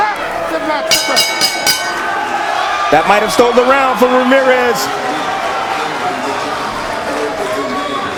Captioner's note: bell rings